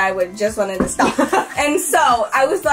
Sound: laughs

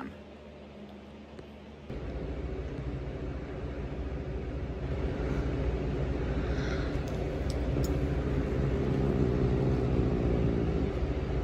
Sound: growls

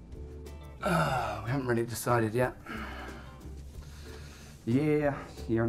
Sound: sighing

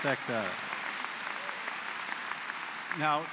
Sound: applause

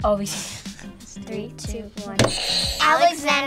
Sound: laughs; buzzer rings

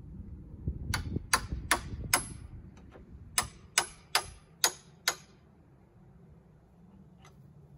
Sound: sound of a hammer hitting nails

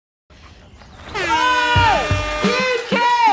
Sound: sirens blaring

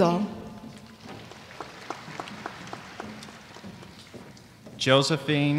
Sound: applause

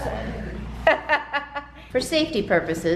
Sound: laughs

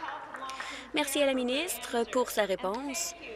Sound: applause

